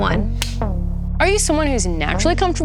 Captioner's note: gentle music; clapboard claps